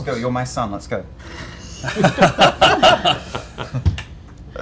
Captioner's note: laughter